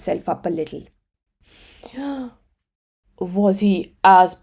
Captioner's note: Jumbo frog takes a deep breath